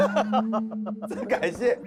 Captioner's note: bitter laugh